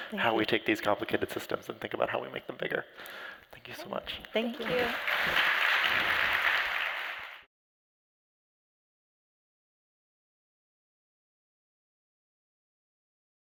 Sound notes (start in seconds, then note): 4.5 applause